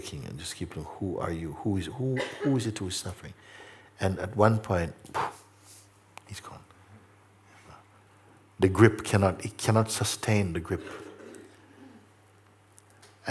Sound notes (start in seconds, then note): 6.0 sharp exhale